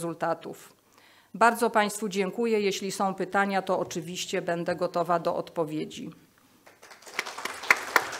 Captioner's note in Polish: Aplauz